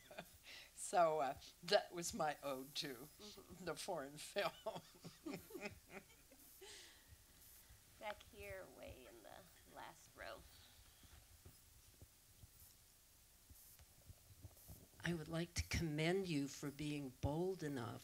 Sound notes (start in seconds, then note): 10.9 room noise. Audience member waiting for microphone